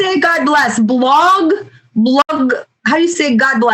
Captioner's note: speaking Russian